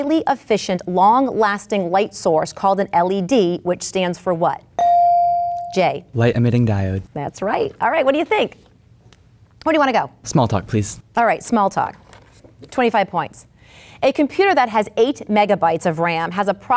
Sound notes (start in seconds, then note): 4.8 bell dinging